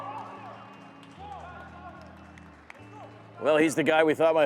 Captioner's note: whistle blows